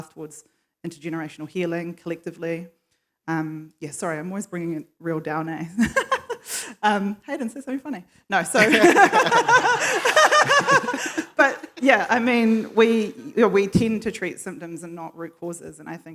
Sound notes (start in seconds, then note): 5.8 laugh; 8.4 laughs; 8.5 laughter